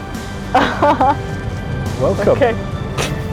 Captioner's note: laughs